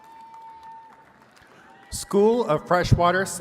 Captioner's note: attendees cheering and clapping